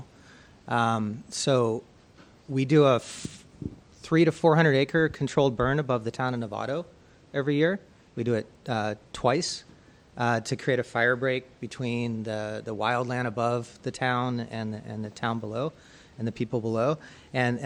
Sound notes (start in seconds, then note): none